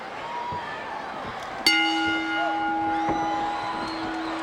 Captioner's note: bell rings